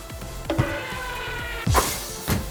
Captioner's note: ball bouncing off wall; basketball falling through rim and net